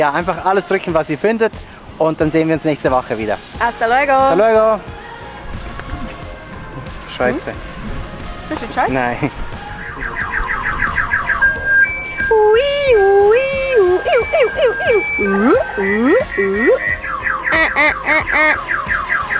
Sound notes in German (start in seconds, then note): 8.4 auf Schweizerdeutsch; 9.7 Jaulen einer Auto-Alarmanlage